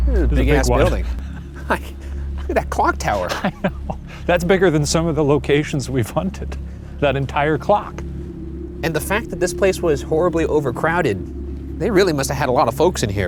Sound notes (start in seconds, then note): 0.2 laughs